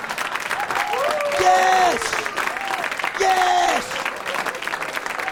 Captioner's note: laughing